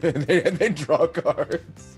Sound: laugh

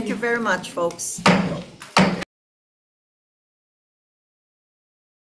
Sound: chair bangs gavel

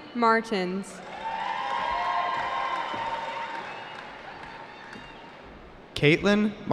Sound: cheering

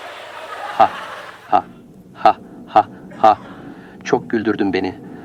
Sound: hysterical laugh

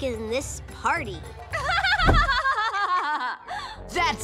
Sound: laughing

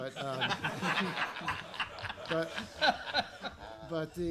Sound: laughter

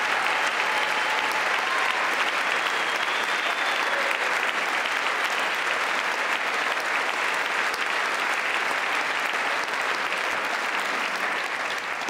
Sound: applause

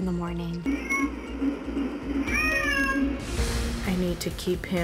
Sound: baby crying

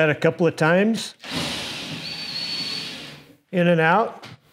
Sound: drill whirs

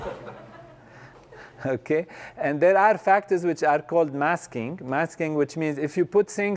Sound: laugh

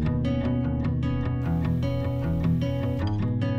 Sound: upbeat music; drill whirring; upbeat music continues

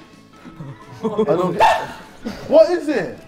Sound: Tobi yelling

